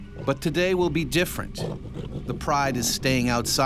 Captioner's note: voiceover